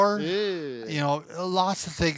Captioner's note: groaning